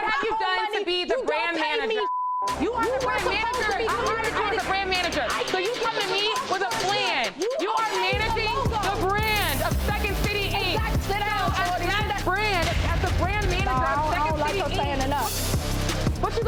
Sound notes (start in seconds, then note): 2.4 beeps